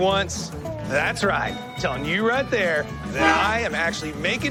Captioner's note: horn honks